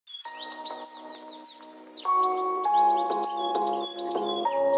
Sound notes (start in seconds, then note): 0.1 birds singing